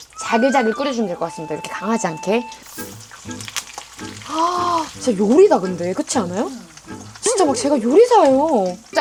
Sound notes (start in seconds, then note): 2.6 simmering